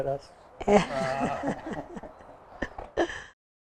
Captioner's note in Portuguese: risos